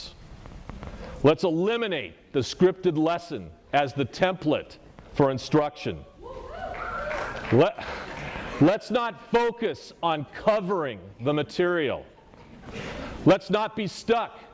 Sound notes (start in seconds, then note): 6.7 applause